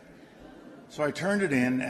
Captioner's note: laughter